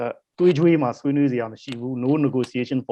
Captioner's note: speaking in foreign language